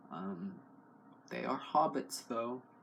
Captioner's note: none